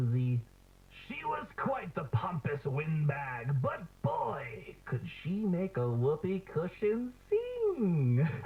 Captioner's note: laughs